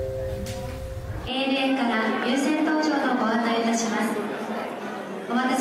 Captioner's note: announcement chiming; announcer speaking Japanese